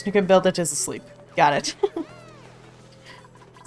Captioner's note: laughs